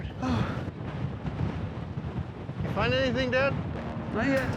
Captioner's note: wind blowing